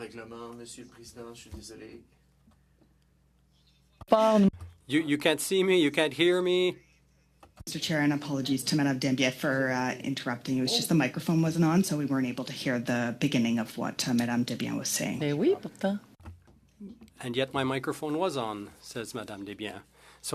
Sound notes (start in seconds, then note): 7.5 speaking French